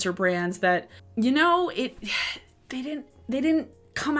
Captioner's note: puffs